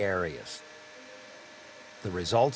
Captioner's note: machine whirling